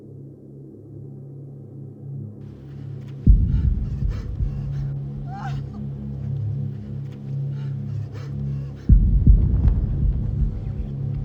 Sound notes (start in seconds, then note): 3.2 Dina sobs